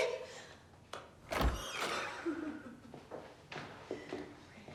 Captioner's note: door squeaks